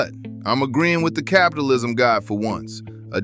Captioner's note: flatly